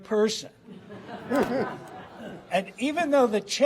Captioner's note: laughter